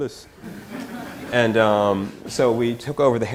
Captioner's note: audience laughter